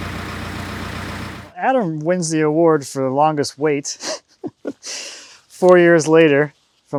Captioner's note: laughing